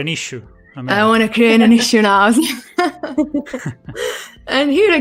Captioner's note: laughs